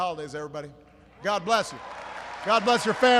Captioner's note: applause